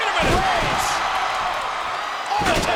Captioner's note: audience cheers